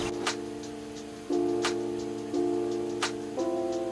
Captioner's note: upbeat music; water rushing